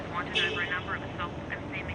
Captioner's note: car horn honks; radio presenter mumbles in the background